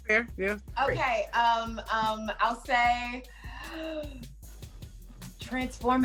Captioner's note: inhales sharply